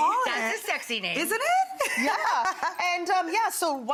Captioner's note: laughs